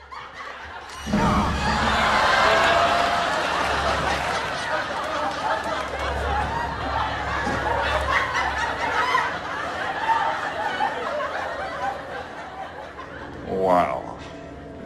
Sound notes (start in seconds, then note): 0.0 uproaruous laughter